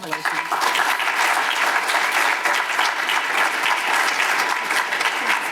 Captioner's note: audience applause